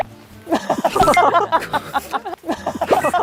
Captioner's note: flap